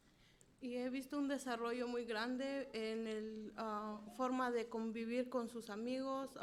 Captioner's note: speaking in foreign language